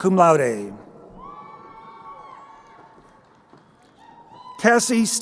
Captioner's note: crowd cheering